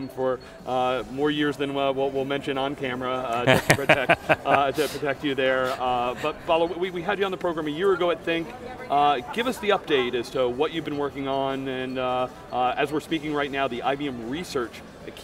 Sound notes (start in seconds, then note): 3.4 chuckles loudly